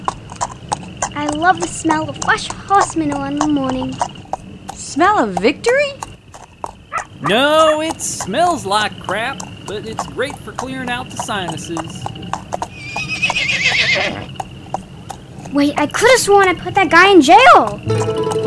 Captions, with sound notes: - I love the smell of fresh horse manure in the morning. - Smell of victory? - No, it's smells like crap, but it's great for clearing out the sinuses. (horse neighs) - Wait I could've sworn I put that guy in jail.